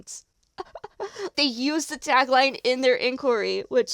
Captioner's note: delighted chuckle